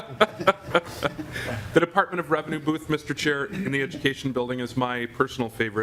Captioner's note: laughing